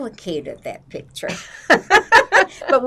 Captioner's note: laughing